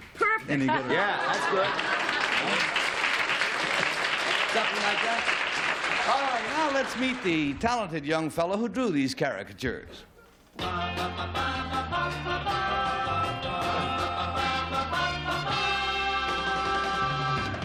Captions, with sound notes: - --any good. - Yeah, that's good. [applause] - Something like that? All right. Now let's meet the talented young fellow who drew these caricatures. [theme music]